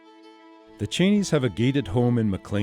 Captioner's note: voiceover